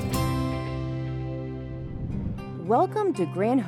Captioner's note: whoosh